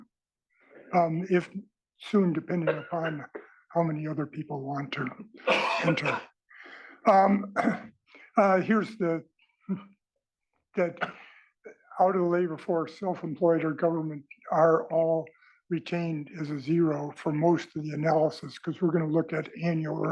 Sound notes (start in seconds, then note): 5.4 cough